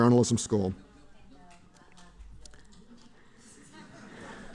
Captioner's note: laughter